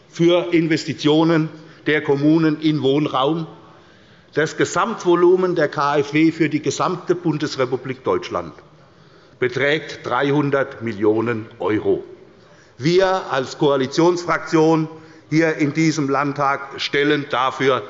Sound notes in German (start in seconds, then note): none